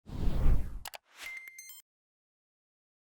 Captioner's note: mouse clicking; jingly beeping